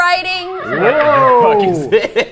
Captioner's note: horse neighing